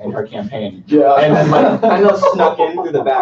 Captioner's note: laughter